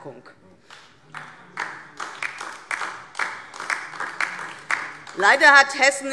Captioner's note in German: Beifall DIE LINKE